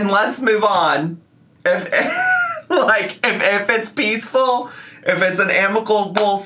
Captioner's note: laughs